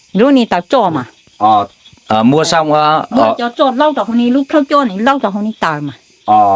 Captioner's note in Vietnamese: hắng giọng